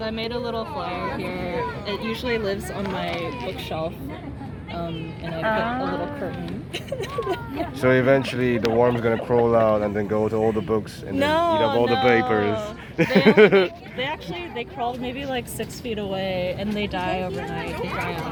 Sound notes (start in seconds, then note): 6.7 laughs; 12.8 laughs